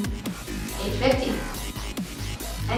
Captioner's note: none